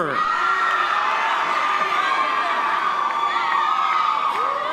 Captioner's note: audience members cheer